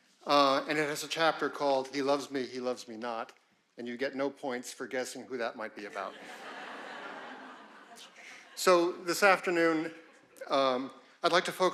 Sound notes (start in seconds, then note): 5.8 audience laughing